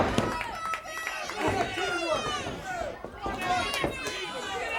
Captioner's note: crowd cheering